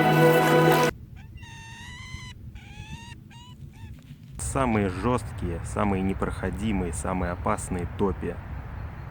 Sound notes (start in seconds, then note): 0.0 music, footsteps on the swamp; 1.1 falcon's cry from afar